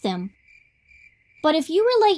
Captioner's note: cricket Chirping